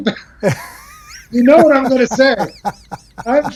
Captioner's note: laughs